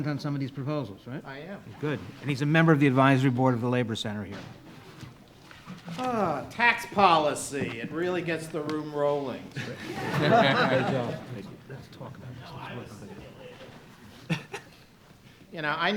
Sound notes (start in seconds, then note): 9.4 all laughing